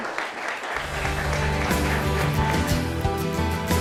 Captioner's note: applause; uplifting music